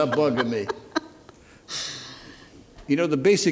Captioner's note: laughs